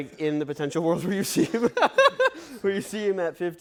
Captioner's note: laughs